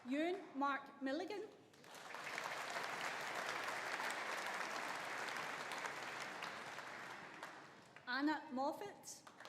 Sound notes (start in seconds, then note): 1.8 audience applauding